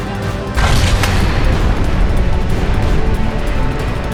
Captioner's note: explosion bangs